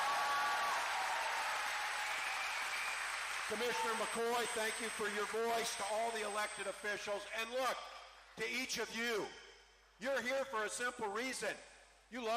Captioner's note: cheering